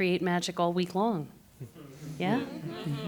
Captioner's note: students chatter